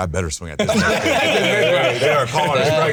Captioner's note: all laughing